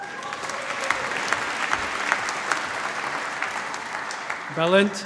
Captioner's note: cheering, applause